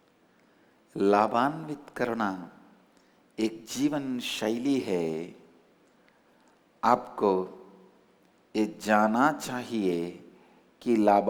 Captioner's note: in hindi